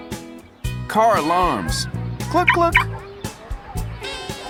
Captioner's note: car alarm goes off